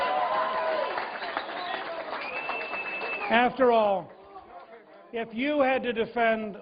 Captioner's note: cheers and applause